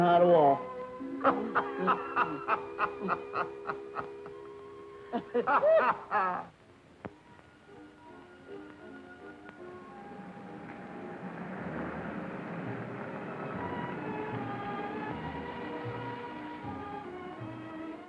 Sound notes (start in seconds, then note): 1.1 Reno laughing; 9.1 pleasant music; 9.6 car whirring